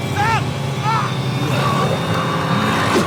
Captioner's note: growling